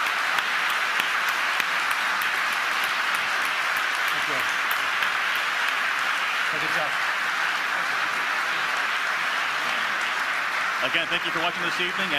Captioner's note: applause